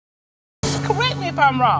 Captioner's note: audience exclaiming